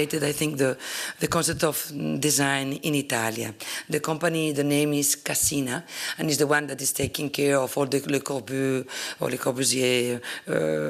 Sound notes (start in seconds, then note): 8.1 italian